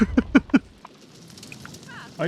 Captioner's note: laughs